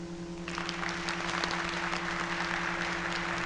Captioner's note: applause